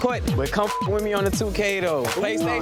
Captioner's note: beep